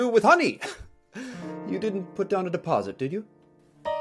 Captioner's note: chuckles